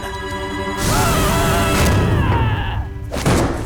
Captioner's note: screaming